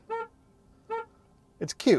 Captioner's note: horn honking